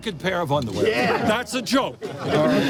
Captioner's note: voiceover; laughter